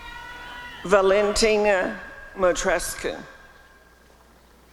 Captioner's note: applause and cheering